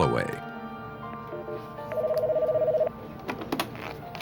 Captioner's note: phone ringing